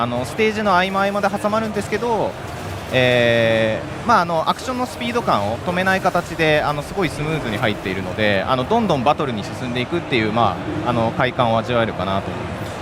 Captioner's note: speaking global language